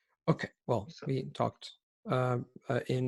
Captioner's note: in English